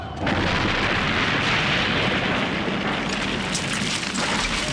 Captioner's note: ledakan